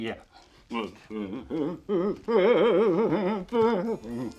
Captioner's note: Frank mumbling